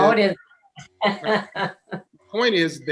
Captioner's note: laughing